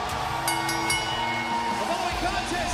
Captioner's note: bell ringing